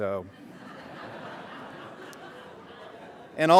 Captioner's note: laughter